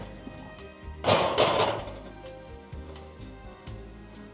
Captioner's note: metal rattling